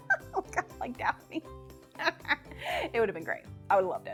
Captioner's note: laughs